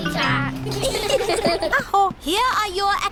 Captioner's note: all giggle